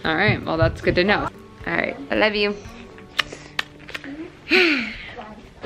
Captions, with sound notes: Alright well that's good to know. Alright, I love you. (kissing)